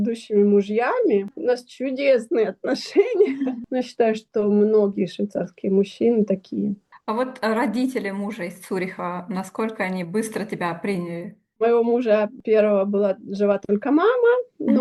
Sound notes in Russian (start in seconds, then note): 2.9 смех